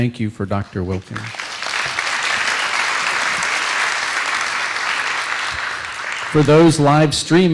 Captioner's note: applause